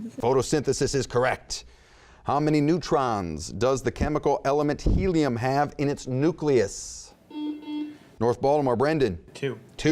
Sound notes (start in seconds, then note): 7.1 buzzing